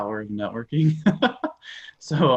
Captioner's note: laughs